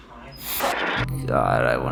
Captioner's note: static